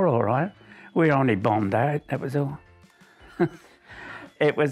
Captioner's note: chuckles